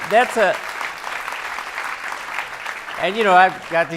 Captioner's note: audience applauding